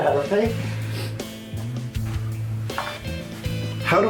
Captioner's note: uncomfortable shifting